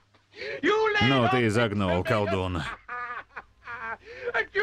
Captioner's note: laughs